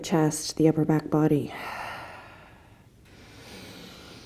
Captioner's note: deep inhale; deep exhale